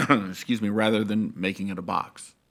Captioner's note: coughs